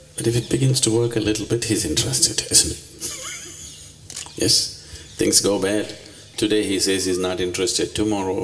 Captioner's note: laughs